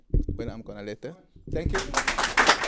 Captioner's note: applause